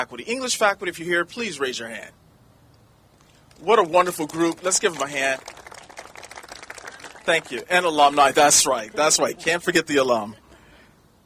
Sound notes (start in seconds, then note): 3.5 applauding